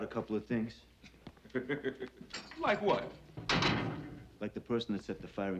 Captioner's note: laughs; bars clank